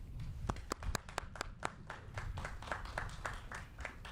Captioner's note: applauding